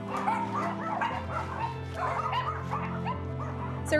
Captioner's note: dogs yipping